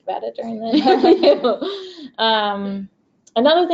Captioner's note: both laugh